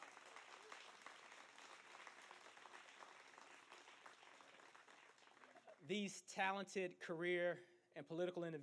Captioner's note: applause